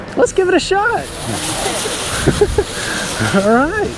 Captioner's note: pom poms rattling